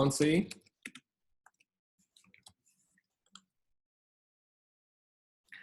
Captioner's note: typing and mouse clicking